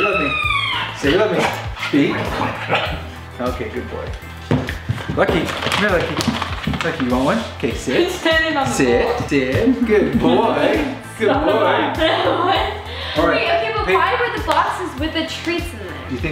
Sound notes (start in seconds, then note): 2.4 dog barks softly